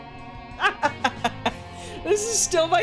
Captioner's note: laughing